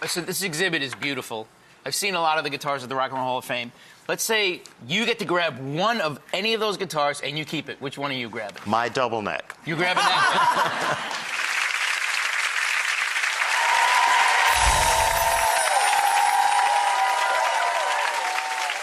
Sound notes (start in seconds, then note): 10.8 audience applauding